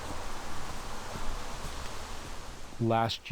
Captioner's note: running water